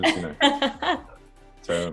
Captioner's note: laughing